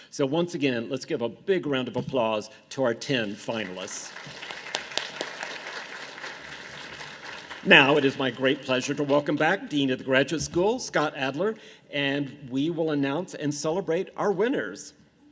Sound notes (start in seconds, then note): 3.5 audience applause